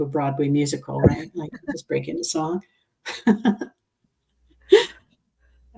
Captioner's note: laughs